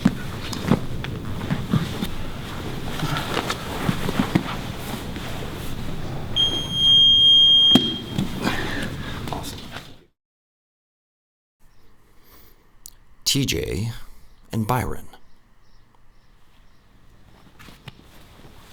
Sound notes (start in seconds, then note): 6.4 beep